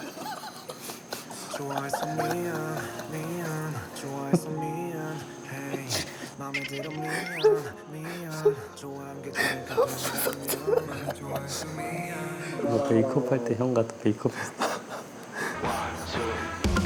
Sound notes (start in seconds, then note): 3.5 crying in laughter; 6.4 laughing